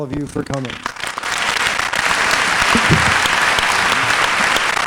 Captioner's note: applause